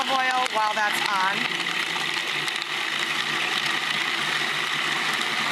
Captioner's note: food processor grinding